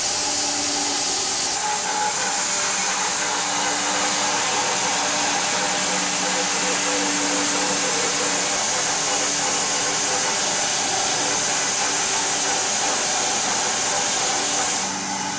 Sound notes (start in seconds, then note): 6.2 saw blade whirring continues